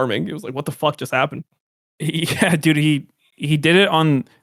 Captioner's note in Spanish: risas